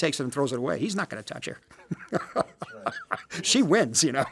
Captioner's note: Martin laughs